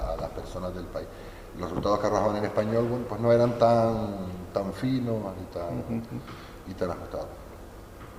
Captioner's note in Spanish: risas